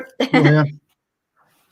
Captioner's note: laughs